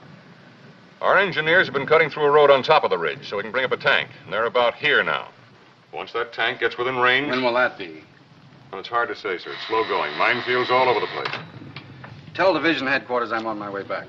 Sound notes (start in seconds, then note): 9.4 phone buzzing